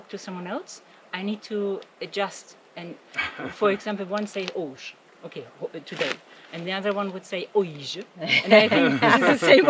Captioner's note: laughing